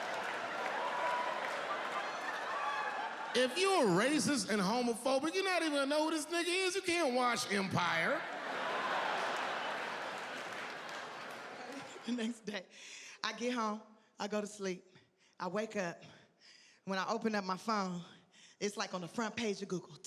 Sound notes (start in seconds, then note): 8.0 audience laughing